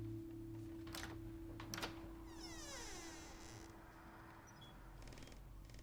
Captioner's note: door latch clicks and squeaks